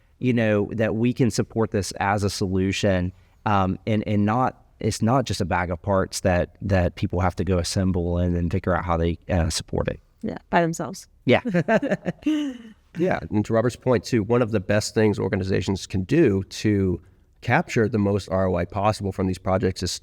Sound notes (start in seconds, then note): 11.4 laughs